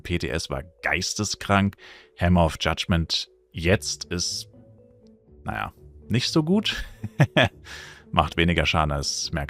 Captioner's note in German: gelächter